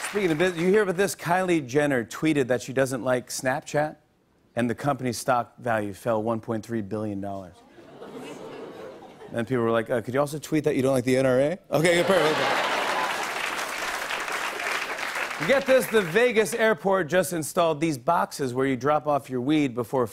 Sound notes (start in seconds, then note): 7.5 audience oohs; 11.8 laughter and applause